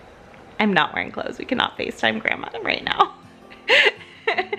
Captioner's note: laughs